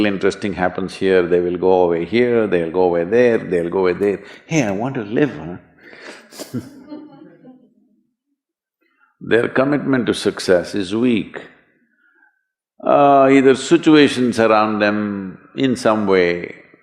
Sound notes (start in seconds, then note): 6.3 few laugh